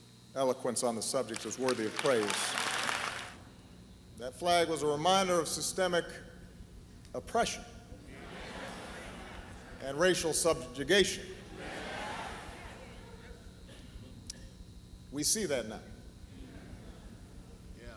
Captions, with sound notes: eloquence on the subject is worthy of praise. (applause) That flag was a reminder of systemic oppression, and racial subjugation. We see that now.